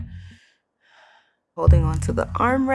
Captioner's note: breathing intensely